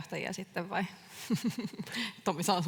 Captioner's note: naurahtaa